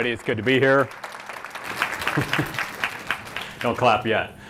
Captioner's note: applause